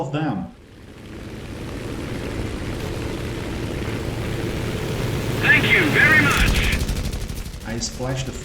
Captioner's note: aircraft Engines ,Gunfire, Flying Sounds